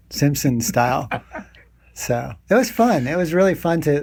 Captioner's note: laughing